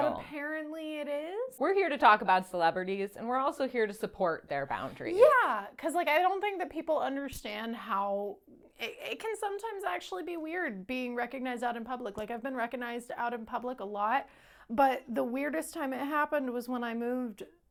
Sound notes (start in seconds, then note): none